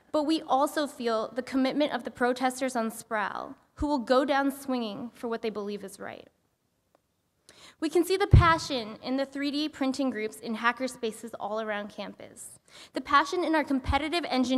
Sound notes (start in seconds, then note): none